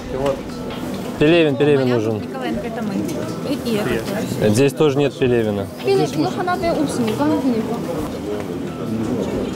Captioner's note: airport sounds